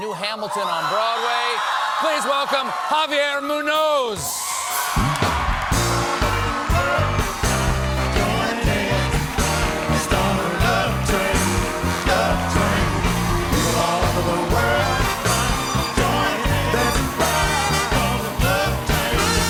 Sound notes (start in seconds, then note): 5.9 band playing; 5.9 cheers and applause